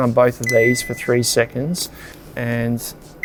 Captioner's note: fridge beeps